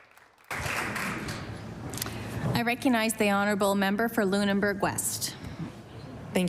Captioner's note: applause